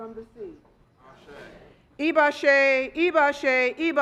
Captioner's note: speaking Foreign Language